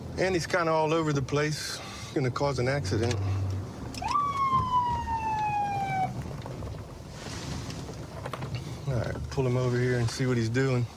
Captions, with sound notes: and he's kind of all over the place. He's gonna cause an accident. [sirens blaring] All right, pull him over here and see what he's doing.